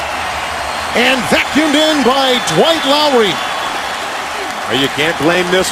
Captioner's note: cheers and applause